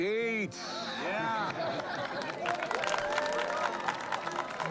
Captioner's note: applause